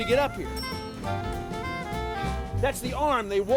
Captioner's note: bell dings